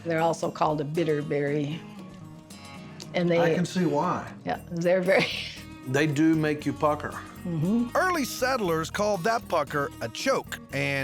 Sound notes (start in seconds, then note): 5.6 chuckles